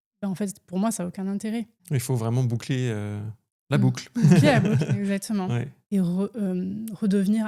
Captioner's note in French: rires